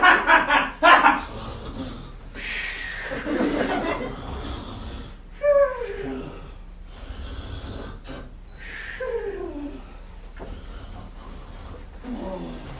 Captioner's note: Polyphemus laughing; Polyphemus snoring